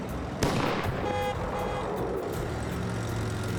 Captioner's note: car backfires; horn honking